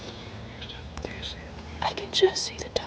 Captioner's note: whispering